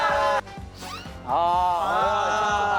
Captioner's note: swoosh